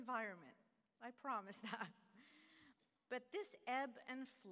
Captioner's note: laughter